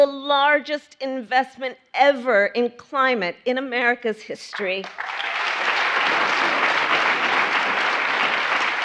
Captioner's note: applause